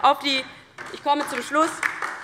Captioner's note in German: Beifall DIE LINKE